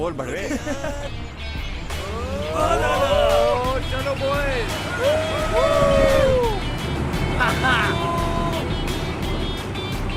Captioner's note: loud cheering